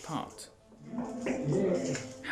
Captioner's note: knocks